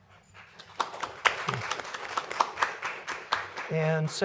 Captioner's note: applause